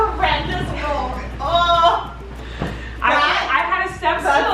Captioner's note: groaning